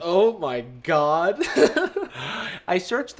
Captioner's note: chuckles